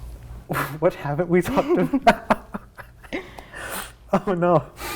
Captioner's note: laughter